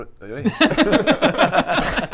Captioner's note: grossed out laughter